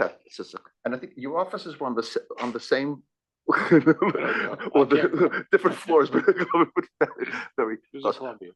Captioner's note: laugh